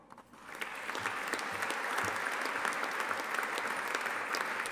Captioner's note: audience applauding